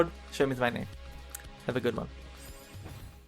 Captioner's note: tsk